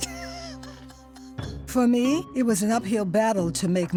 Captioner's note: laughs